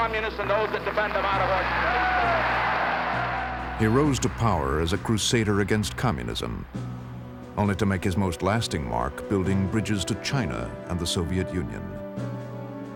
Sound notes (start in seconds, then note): 0.8 cheers and applause